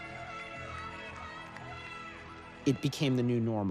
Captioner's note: cheers and applause